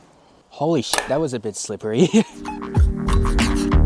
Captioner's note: clang